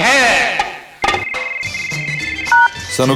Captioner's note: phone Rings